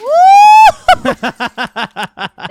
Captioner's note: laughing